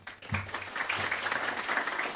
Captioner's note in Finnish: Aplodeja